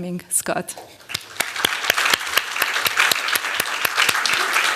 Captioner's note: applause